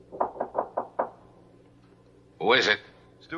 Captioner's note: knock on door